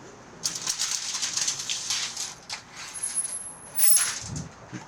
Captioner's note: metal clanks